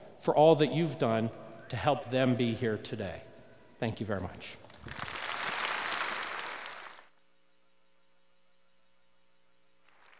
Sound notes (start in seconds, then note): 4.7 applause